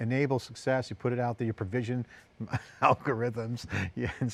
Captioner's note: laughs